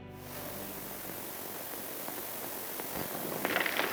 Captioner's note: hissing